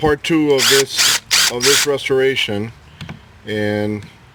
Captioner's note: electric drill